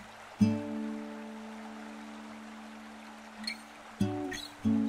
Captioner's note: slow guitar music; running water